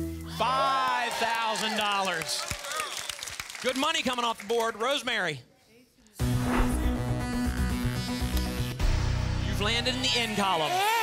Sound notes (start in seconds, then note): 0.6 audience applause